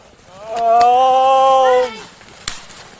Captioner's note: moaning